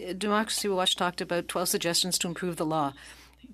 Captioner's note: speaking French